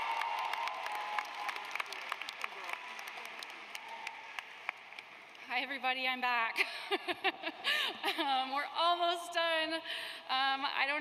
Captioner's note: applause